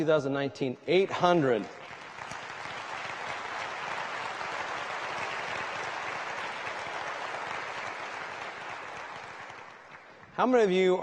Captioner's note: applause